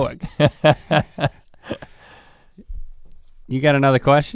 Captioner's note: Rhett chuckles